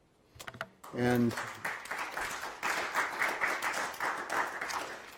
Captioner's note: applause